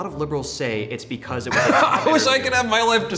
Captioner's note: laughing